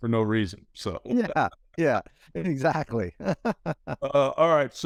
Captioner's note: laughs